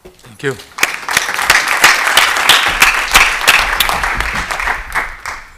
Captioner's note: applause